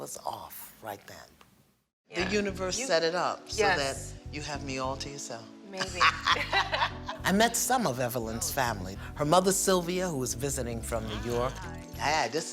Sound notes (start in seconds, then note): 5.8 both laugh